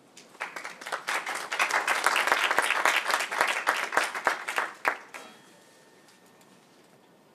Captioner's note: applause